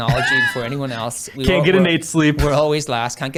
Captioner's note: laughs